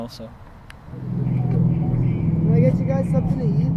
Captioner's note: traffic humming